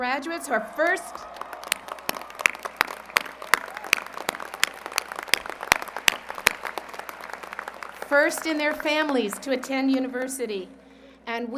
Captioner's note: applause